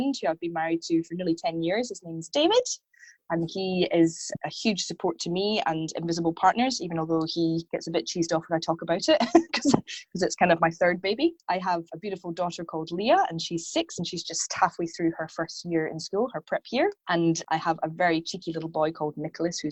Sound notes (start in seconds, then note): 9.3 laughs